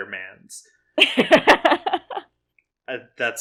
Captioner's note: laughs